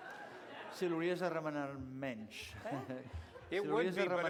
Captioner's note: non-english speech